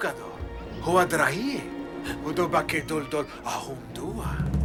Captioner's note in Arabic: الصوت المنطوق البدوي